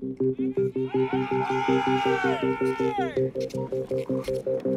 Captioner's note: more cheering